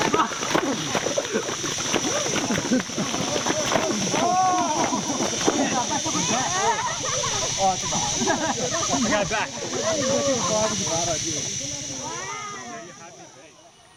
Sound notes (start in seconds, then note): 0.1 all giggle; 2.5 birds chirping; 2.5 insects chirping